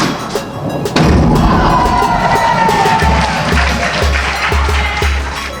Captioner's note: spectators applauding